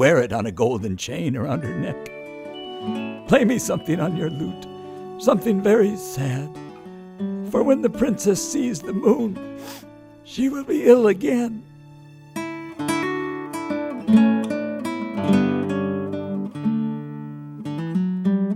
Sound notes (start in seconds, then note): 9.5 sniffs; 12.1 lute music continues